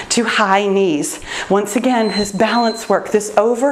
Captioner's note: timer beeps